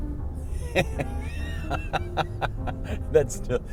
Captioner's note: laughter